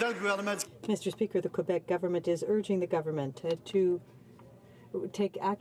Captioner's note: some Applause